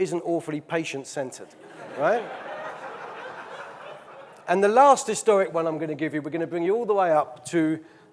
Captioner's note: audience laughing